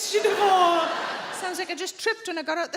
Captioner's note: audience laughing